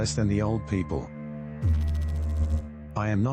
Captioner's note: electrical noise